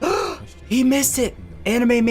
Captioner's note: gasps